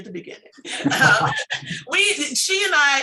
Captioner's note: laughter